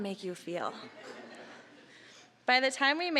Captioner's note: audience laughing